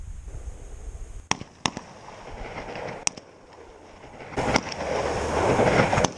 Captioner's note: gunshots